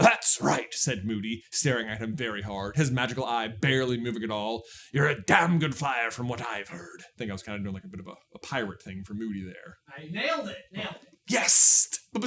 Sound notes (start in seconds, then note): 4.7 growly Scottish pirate